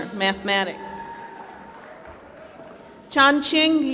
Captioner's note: applause